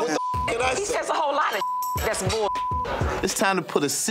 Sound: beep

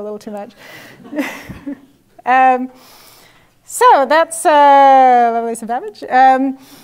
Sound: laugh

